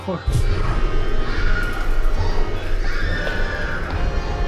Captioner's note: lolani screams